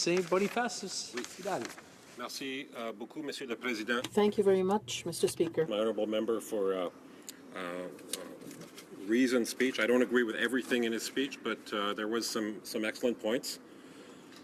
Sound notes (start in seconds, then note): 6.2 speaking in french